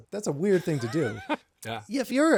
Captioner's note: laughing